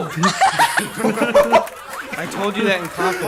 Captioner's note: group laughs